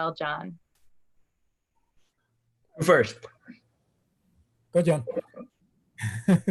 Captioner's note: laughs